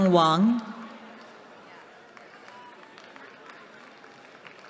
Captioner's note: cheering